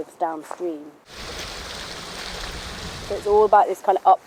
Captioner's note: water flowing